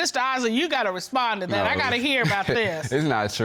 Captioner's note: laughs